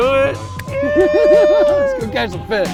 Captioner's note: both laughing